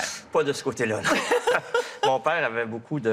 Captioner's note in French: rires